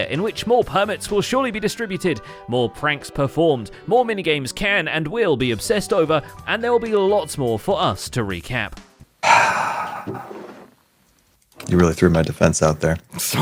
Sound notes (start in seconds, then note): 9.2 sighs